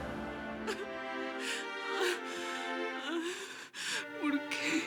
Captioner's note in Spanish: Sollozos